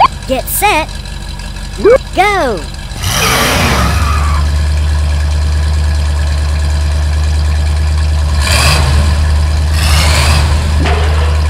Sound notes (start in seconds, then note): 0.0 beep; 1.8 beep; 2.6 engine revs; 8.1 engine revs; 10.7 slam